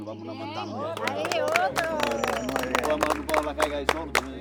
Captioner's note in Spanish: aplausos